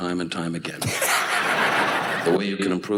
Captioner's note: audience laughs